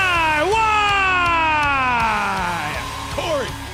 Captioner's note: crowd cheering